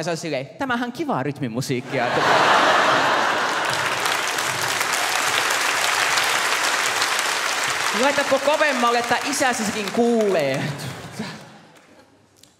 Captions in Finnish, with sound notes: "Tämähän on kivaa rytmimusiikkia" *naurua ja aplodit* "Laitatko kovemmalle, että isäsikin kuulee!"